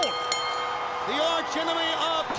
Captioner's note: bell ringing